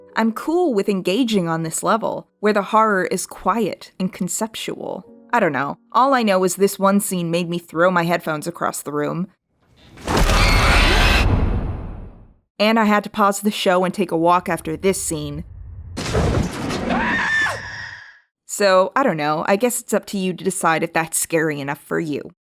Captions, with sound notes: I'm cool with engaging on this level where the horror is quiet and conceptual. I don't know...all I know is this one scene made me throw my headphones across the room, [Abrupt SCARY SOUNDS] and I had to pause the show, and take a walk after this scene, [Loud scary sound & Dani screaming] so I don't know, I guess it's up to you to decide if that's scary enough for you.